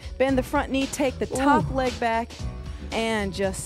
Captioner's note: grunts